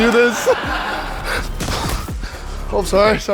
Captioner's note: teammates laugh